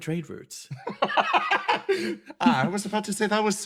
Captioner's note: laugh